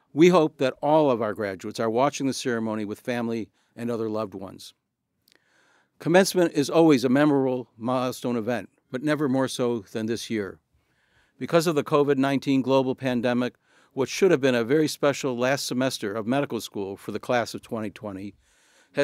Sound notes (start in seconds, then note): none